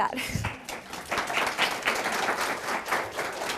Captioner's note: applause